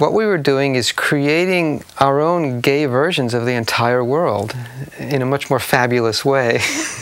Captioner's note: laughing